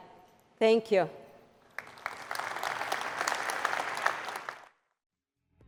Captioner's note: applause